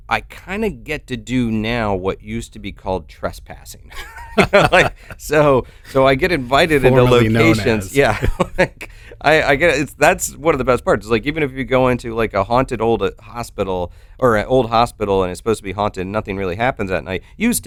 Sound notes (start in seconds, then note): 3.9 both laughing; 9.2 chuckles